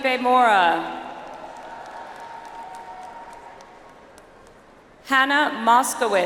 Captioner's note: audience applauds